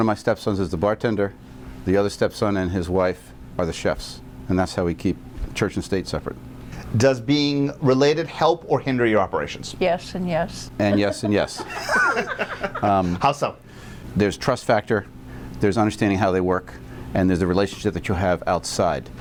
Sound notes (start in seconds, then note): 10.9 all laugh